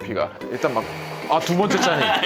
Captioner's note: whirr